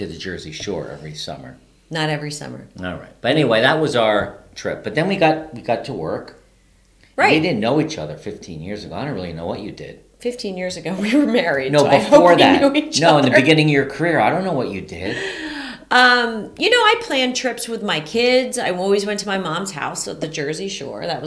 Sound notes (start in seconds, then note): 13.9 laughing